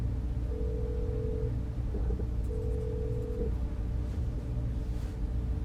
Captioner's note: phone line ringing